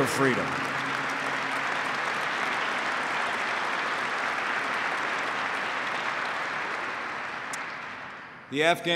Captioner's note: applause